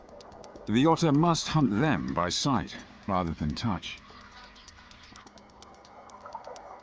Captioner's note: water gurgles; dramatic music